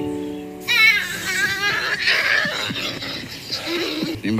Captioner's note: kid screaming